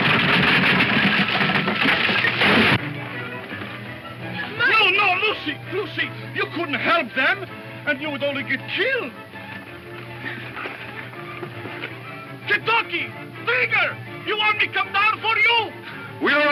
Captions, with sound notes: (thuds) - No, no, Lucy, Lucy! You couldn't help them. You would only get killed. Kentucky! Trigger! You want me come down for you?